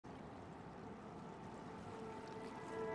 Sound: light sound of waves

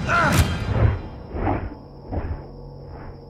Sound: whooshing, music stops

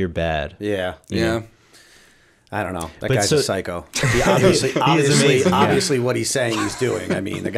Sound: laughter

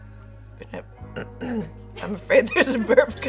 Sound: clears throat

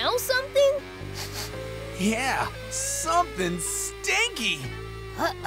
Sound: sniffing

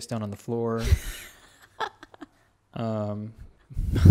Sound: laughs

